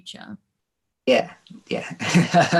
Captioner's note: laughing